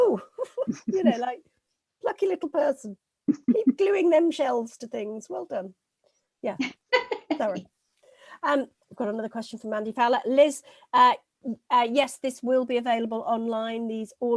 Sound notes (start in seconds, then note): 6.9 laughing